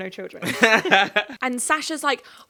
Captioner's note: chuckling